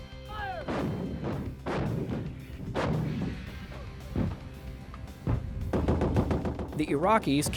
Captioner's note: gun fire